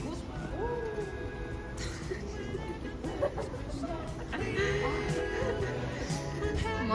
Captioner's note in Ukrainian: сміх